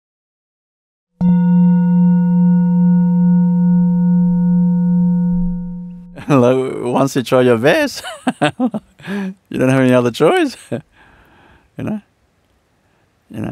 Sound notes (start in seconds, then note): 7.9 laughs